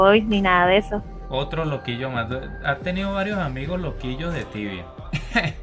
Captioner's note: laughs